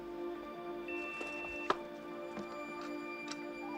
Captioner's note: computer beeps